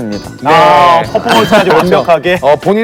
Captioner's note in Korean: 헤헷 헤헷